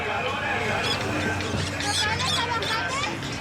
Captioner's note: birds chattering; music from radio